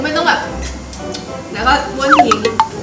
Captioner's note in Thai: เสียงดูดฟัน